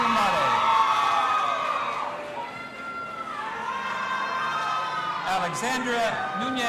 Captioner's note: audience applauding and cheering